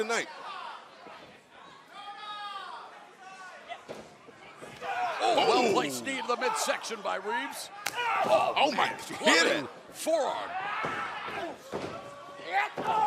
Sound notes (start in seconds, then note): 2.1 crowd chatter